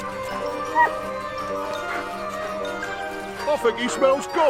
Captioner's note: dogs whimpering; quirky instrumental music